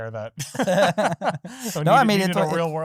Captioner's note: laughing